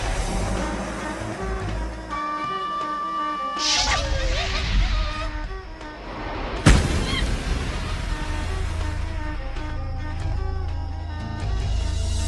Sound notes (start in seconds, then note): 3.6 monkey chattering